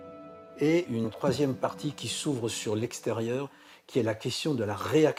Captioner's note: speaking in foreign language